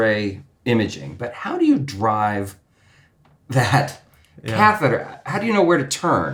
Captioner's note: laughs